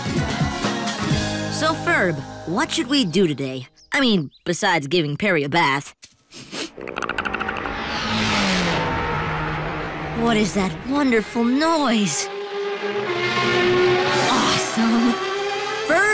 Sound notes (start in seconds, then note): 6.3 sniffs; 6.8 chattering; 7.6 engines roaring